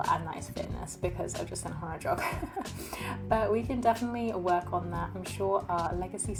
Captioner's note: laughs